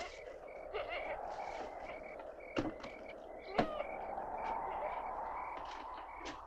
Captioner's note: wind continues whooshing